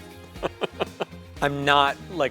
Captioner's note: laughter